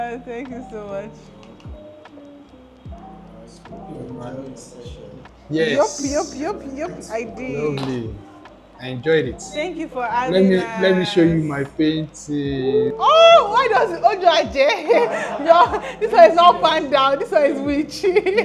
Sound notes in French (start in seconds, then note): 14.5 rires